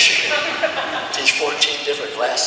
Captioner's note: audience chuckles